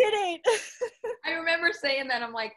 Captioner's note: both laughing